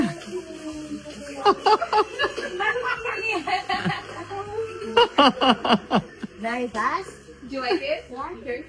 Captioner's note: loud laughter